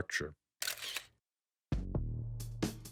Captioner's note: camera shutter closing; soft drum music